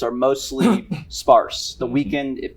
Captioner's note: throat clearing